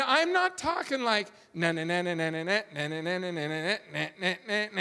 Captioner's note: humming